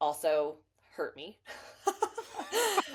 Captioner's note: laughter